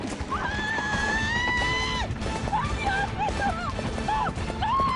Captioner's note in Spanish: Gritos